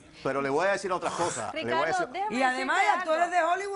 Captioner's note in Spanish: La doctora exhala